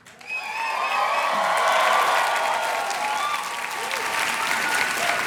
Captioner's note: cheers and applause